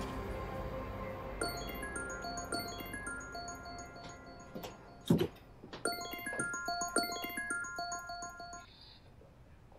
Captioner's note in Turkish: Telefon Çalıyor